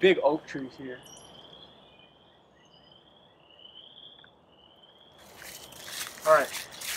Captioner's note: frogs calling in distance